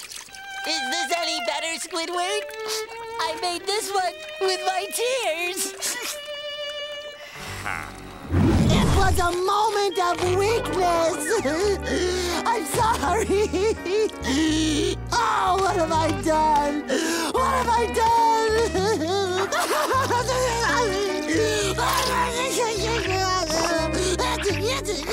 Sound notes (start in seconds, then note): 7.2 sighing; 11.1 crying; 18.2 crying